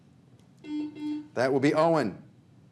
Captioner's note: buzzer buzzes